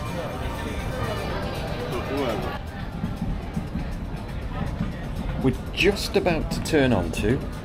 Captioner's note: people chattering